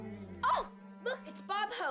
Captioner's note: gasps